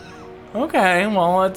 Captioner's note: laughs